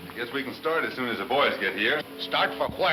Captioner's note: speaking in a foreign language